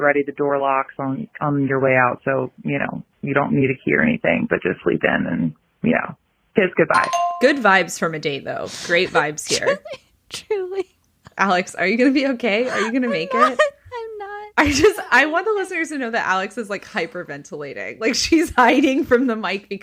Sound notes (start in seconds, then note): 9.0 very quietly, laughing